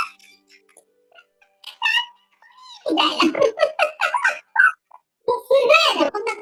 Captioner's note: laughs